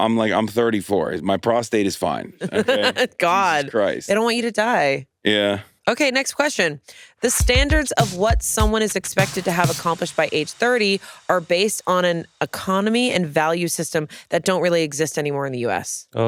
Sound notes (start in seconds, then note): 2.4 laughs